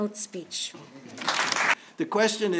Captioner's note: applause